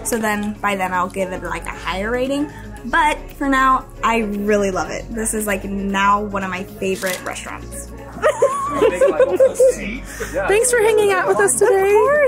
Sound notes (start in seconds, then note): 8.1 group laughing